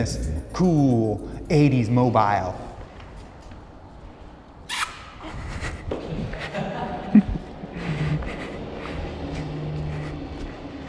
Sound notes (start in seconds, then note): 4.7 smooch; 6.0 giggles